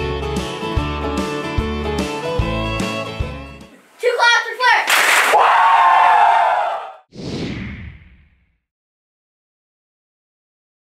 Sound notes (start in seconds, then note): 4.9 cheering